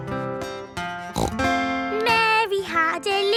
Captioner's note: snorts